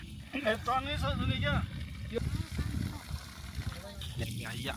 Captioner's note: speaking Nepali